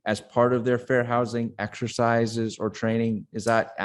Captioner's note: none